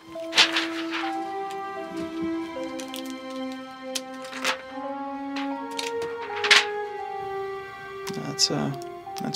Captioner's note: paper moving back and forth